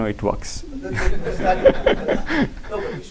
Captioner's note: laughter